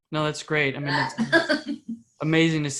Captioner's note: laughing